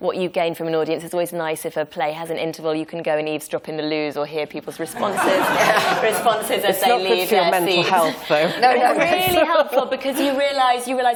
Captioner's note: laughter